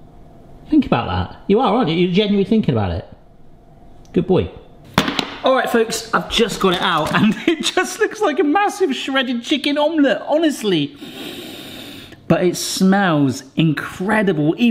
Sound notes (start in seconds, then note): 4.9 rack thuds; 11.0 sniffs